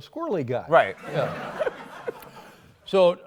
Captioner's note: laughs